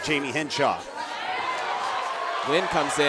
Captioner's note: audience cheering